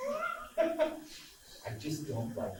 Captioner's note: laughs